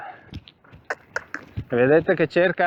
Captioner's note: cluck